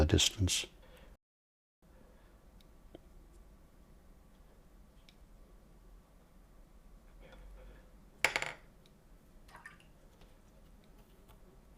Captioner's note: silence